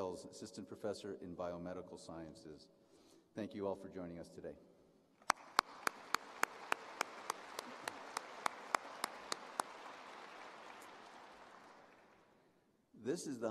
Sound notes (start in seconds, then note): 6.1 applause